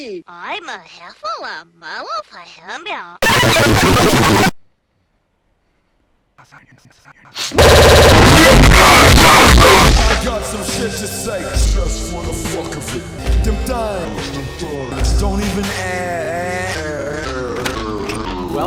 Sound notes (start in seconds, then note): 7.5 more distorted noises; 17.1 VCR ejecting sound effects